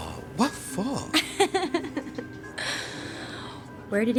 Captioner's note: Cassandra laughing